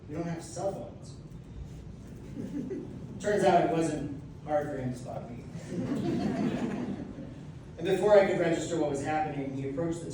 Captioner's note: laughter; audience laughs